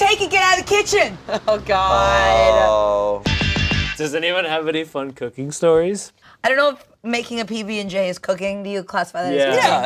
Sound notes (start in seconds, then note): 1.9 laughs; 3.2 upbeat music